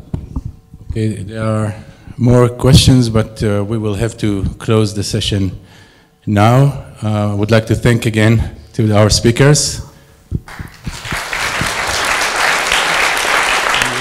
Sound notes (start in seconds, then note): 10.4 applause